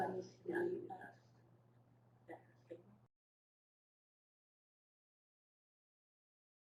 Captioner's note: long silence